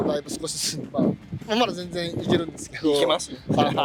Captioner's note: laughs